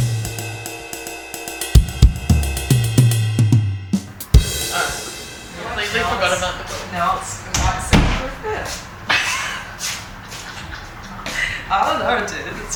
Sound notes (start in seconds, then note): 7.5 door thuds; 9.1 laughing